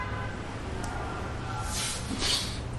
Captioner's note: crazy Cambodian street noise